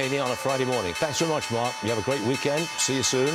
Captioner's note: opening bell ringing